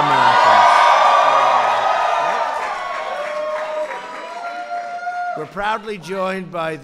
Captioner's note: applause